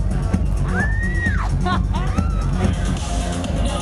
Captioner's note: laughs